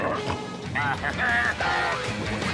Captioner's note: bleating